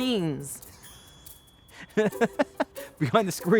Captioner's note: laughing